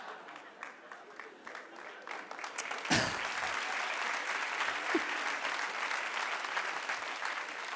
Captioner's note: audience claps